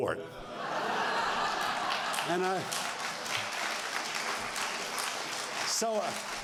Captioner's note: applause